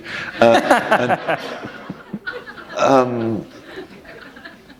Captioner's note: laugher